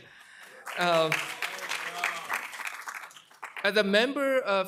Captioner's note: applause